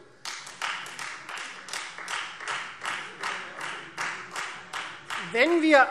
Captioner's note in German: Beifall Freie Demokraten